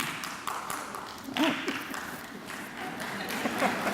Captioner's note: clapping